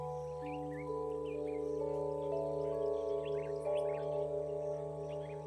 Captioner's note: birds chirping